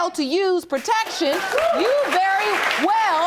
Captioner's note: audience cheering